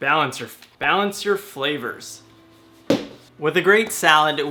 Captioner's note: thumping